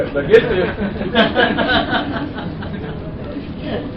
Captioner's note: laughter